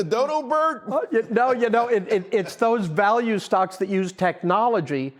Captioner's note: laughter